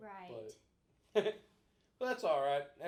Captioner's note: laughing